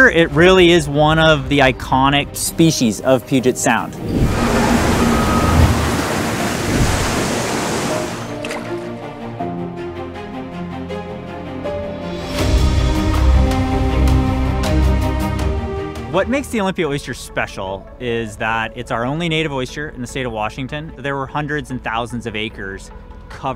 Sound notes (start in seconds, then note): 3.9 waves crashing; 8.0 uptempo music